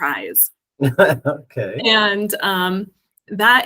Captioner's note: laughs